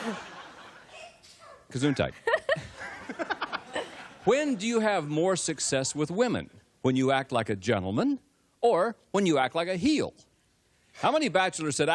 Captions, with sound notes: - Many? [laughter] When do you have more success with women, when you act like a gentleman or when you act like a heel?